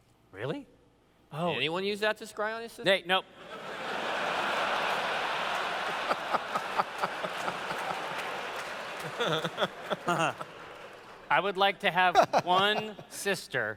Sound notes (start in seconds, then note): 3.4 laughter